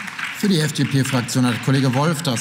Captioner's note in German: Beifall